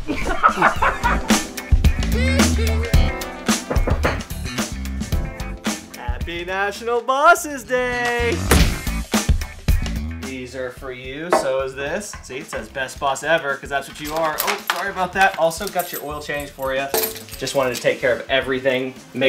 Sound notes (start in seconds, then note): 0.0 laughter; 3.6 knocking on door